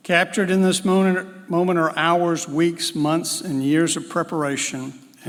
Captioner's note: none